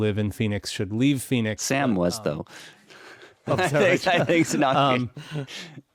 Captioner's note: chuckling